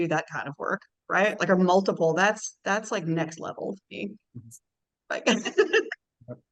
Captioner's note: chuckles